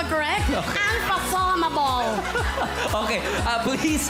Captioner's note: robi chuckles